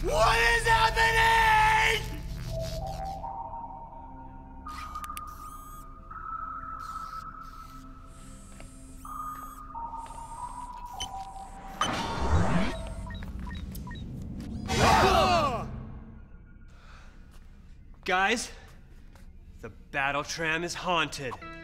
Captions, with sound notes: What is happening? (robot noises) Whoa! Guys! The BattleTram is haunted.